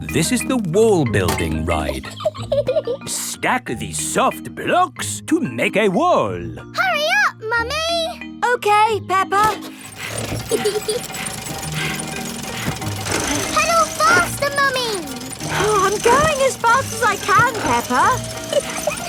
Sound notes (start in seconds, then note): 1.9 laughs; 9.7 mummy pig panting; 10.4 peppa laughing